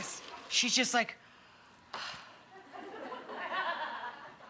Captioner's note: Rachael sighing